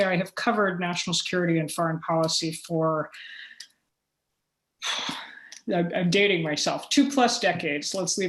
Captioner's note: sigh